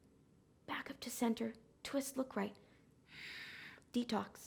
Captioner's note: inhaling